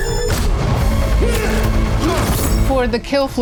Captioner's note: grunting